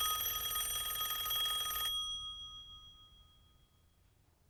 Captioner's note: rings